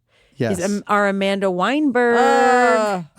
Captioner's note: exclaims